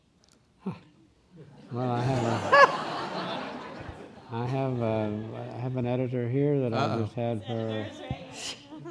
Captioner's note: laughing